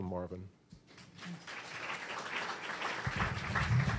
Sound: applause

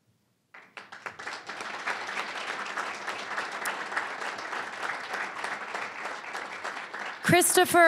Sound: applause

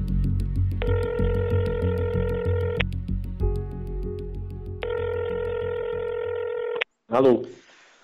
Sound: phone call sound

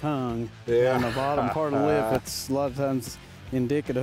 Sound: laughs

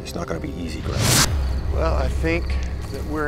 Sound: air whooshing

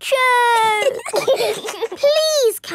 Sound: giggling

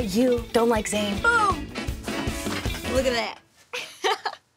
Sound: laughs

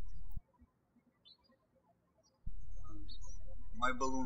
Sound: birds chirping

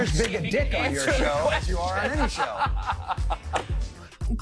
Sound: laughs

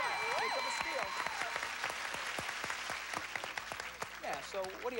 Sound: applause

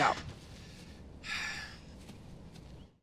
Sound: sighs

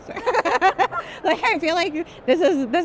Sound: laughter

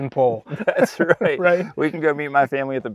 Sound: laughs

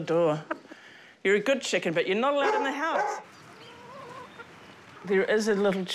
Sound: shep barks

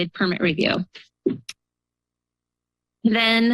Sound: pause

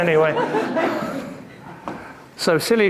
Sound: audience laughing

